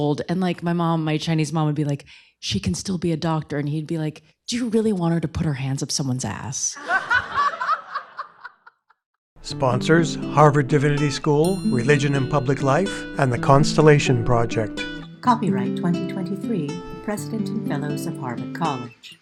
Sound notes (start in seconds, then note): 6.7 laughter